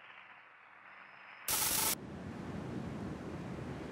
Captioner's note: sizzling